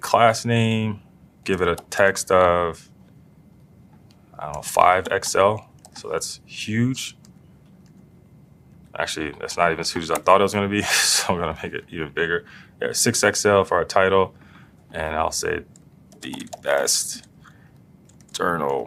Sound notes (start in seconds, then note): 10.8 laugh